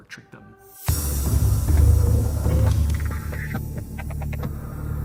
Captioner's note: gaming sound